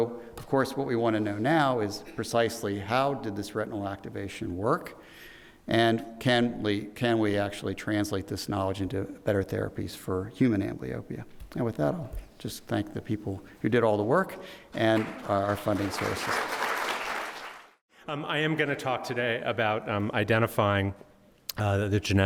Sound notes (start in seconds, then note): 16.7 audience applauding